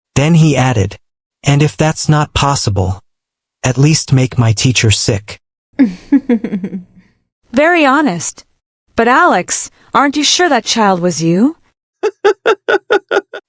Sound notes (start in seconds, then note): 5.8 laughs softly; 12.0 laughs